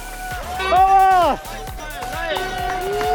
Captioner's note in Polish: Aplauz